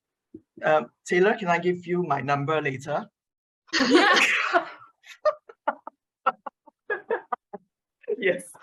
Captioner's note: laughter